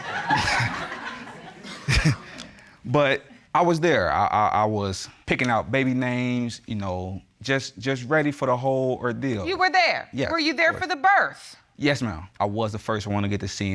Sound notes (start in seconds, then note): 0.0 chuckles